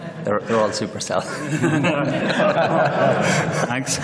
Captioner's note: laughter